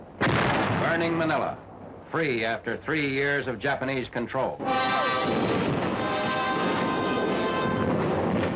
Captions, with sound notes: (gun fires) Burning Manila, free after three years of Japanese control. (dramatic music)